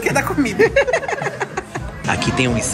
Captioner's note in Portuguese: risos